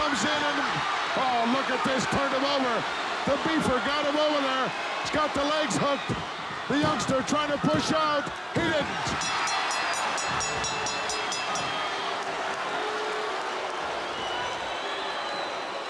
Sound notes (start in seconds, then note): 9.2 bell ringing; 11.2 audience shouting